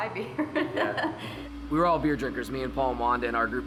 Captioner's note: laughs